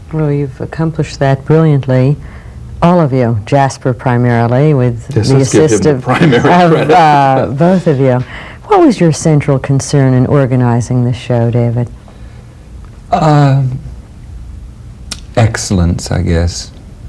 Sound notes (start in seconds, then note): 5.4 laughs